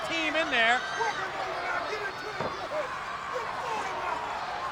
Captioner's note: crowd yelling